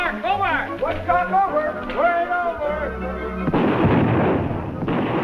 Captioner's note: hunters chattering; gunshot firing